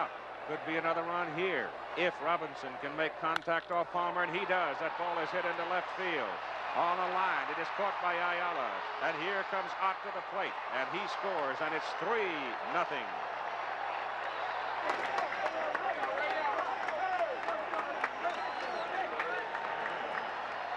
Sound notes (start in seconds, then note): 6.0 applause